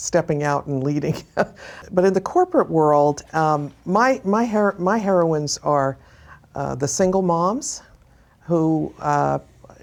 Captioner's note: laughs